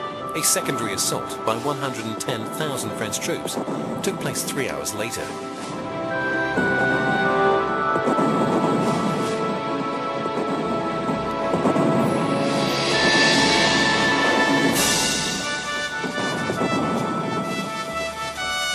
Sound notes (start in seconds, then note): 6.3 heavy artillery booming; 15.2 bright majestic music